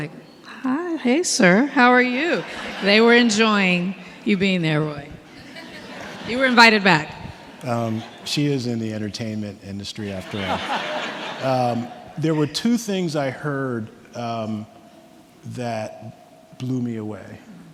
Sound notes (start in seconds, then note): 2.0 audience laughing; 5.2 audience laughing; 10.1 everyone laughing